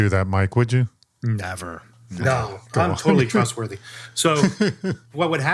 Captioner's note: laughs